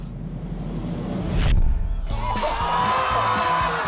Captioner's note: all exclaim